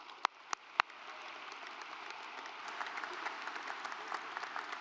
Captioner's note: audience applauds; claps